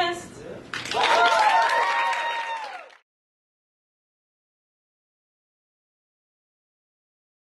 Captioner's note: applause